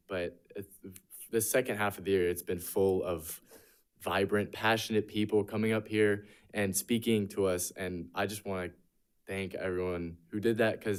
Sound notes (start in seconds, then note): none